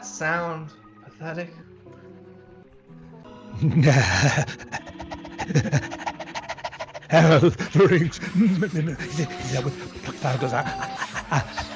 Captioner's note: panting